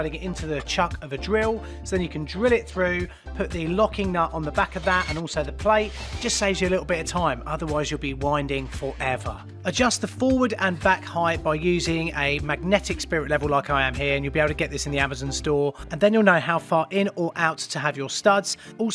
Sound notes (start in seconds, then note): 5.8 drill whirs